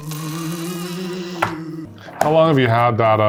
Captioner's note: ghost moaning